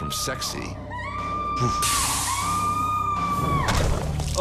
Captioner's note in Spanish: Sandy gritando